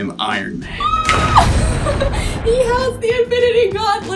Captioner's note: thunder sounds; laughs